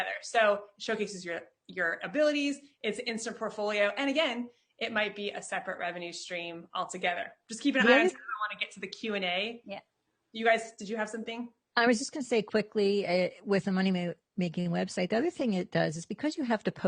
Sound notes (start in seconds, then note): 8.2 faintly speaking